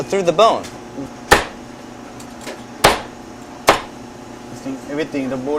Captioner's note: sound of chopping the chicken